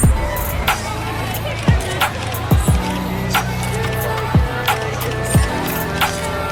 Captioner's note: all chattering; camera shutter clicking